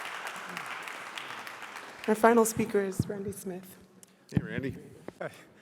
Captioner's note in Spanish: Aplausos